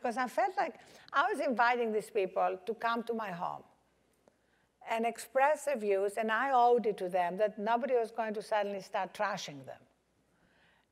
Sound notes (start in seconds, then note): none